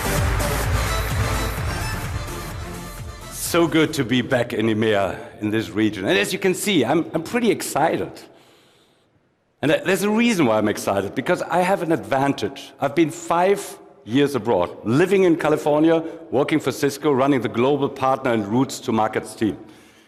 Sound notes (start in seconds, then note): 2.0 applause